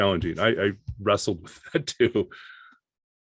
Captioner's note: chuckles